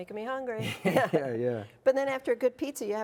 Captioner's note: laughing